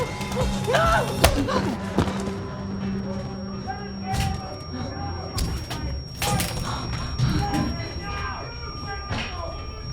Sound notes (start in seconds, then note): 4.0 door breaking apart; 5.6 mob shouting